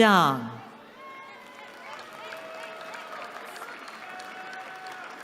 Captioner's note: applause